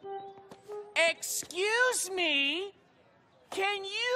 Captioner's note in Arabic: يتحدث ببطء